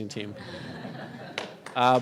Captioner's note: audience laughs; audience claps